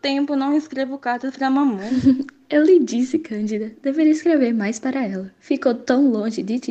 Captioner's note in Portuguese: riso